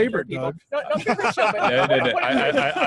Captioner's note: laughing